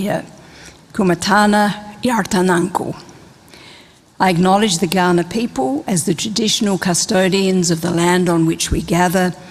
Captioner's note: speaks indigenous language